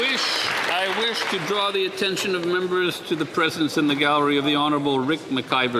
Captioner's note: some Applause